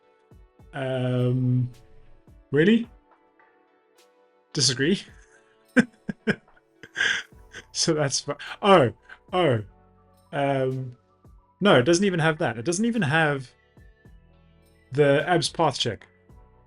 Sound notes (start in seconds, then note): 5.8 laughs